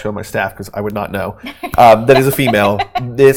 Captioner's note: laughing